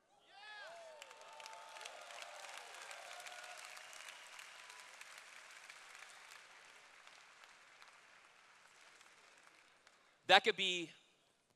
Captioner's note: cheers